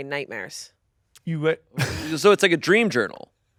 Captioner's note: laughs